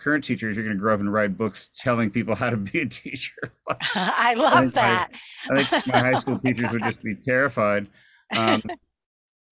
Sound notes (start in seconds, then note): 3.2 laughs; 3.4 laughter; 8.3 laughs